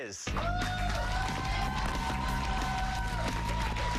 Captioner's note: applause